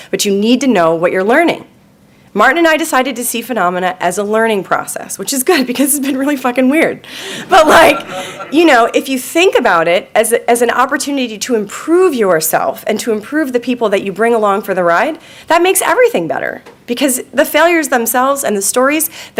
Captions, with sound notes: but you need to know what you're learning. Martin and I decided to see Funomena as a learning process which is good because it's been really fucking weird. (audience laughing) But like, you know, if you think about it as a, as an opportunity to improve yourself and to improve the people that you bring along for the ride, that makes everything better because the failures themselves and the stories